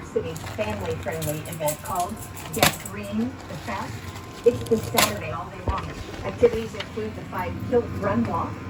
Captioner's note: "21Alive News at 6" plays in background